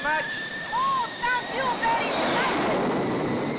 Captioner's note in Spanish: habla en inglés; esterina habla en inglés